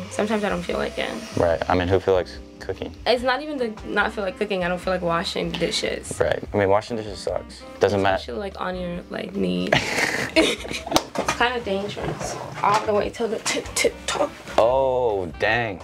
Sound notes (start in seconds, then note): 9.7 both laughing